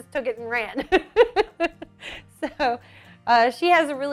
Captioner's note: laughs